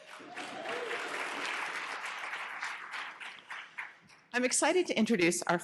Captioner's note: audience applauding